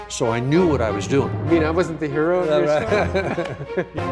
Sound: laughter

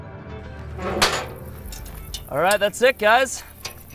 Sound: object squeaking

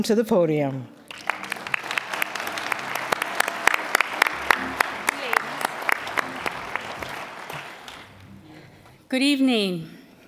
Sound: applause

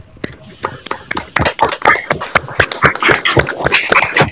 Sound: applause

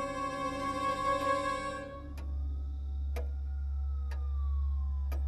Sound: ticking

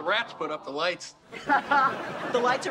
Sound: laughs

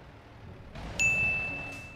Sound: ding

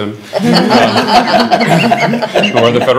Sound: laughing

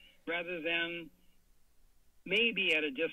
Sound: pause

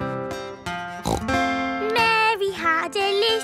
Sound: playing guitar; snorts

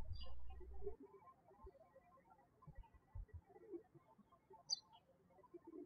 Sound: birds chirping

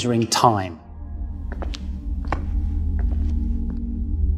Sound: sfx: footsteps

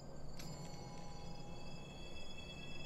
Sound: jewelry chimes

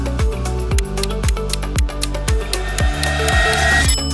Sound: timer ticking; bell dings

